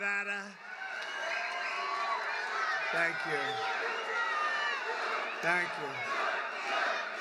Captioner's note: applause